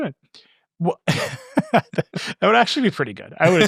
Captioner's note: laughing